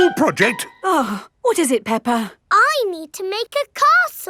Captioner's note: gasps; sighs